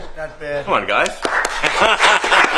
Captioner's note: applause